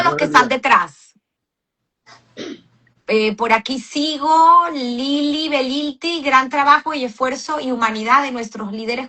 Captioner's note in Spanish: carraspeo